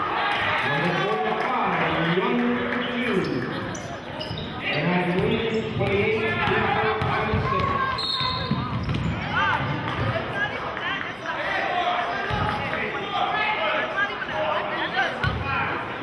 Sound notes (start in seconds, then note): 8.0 whistling; 11.4 yelling